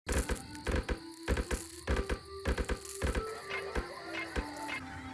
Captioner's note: quiet tapping